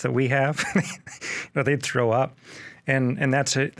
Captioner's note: laughs